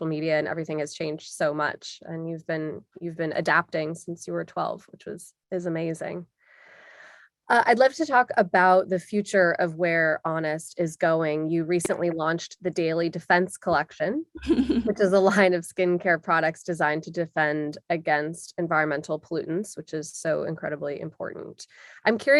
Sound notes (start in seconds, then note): 14.4 laugh